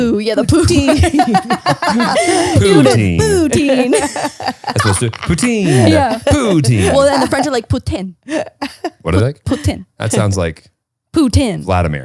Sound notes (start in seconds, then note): 0.5 all laughing; 4.4 laughing